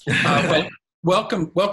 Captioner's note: laughing